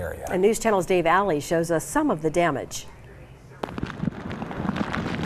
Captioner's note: hard rain falling